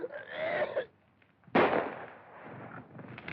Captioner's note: coughing, Gagging; gunshot